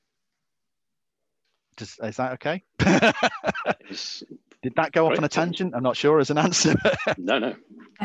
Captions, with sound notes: Is that OK? [LAUGHS] Did that go off on a tangent? I'm not sure it's an answer. No, no.